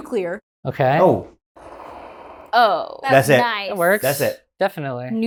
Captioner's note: nuclear sound effect